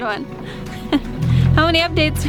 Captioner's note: laughs